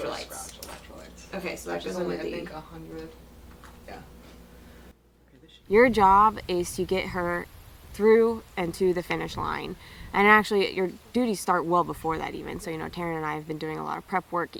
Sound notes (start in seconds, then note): none